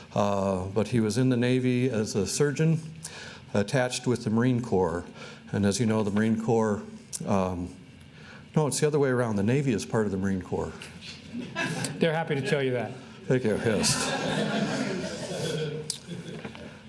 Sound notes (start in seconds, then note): 11.3 audience chuckling; 13.4 audience laughing